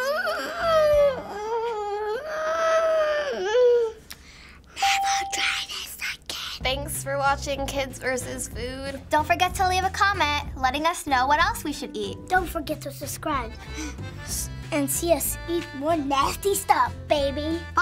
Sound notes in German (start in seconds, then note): 4.6 flüsternd